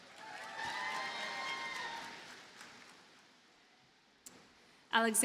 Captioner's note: audience cheers and applauds